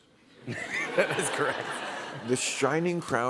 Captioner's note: laughter